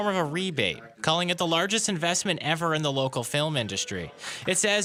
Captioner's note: applause